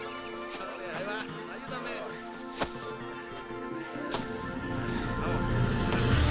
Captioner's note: slow guitar music; men speaking in foreign language